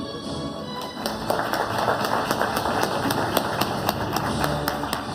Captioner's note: audience applauding